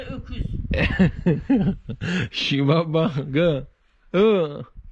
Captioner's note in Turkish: Gülme sesi